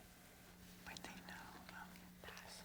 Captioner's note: team whispering; whispering